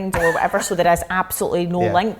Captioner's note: laughing